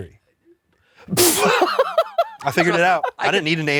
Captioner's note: guffaws